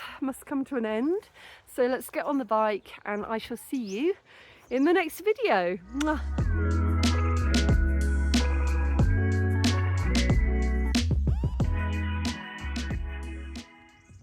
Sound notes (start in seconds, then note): 9.9 mwa; 10.5 upbeat music